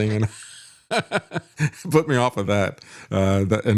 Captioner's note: laughs